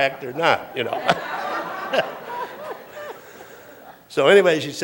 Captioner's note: laughter